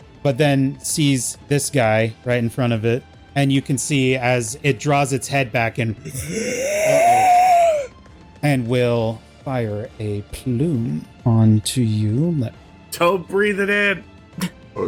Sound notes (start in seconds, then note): 8.5 inhales